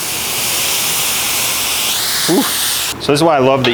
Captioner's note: loud sizzling